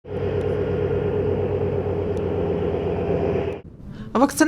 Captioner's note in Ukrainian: звук двигуна літака